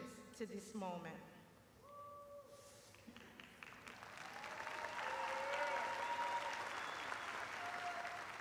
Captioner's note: cheers and applause